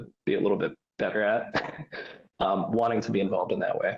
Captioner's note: chuckles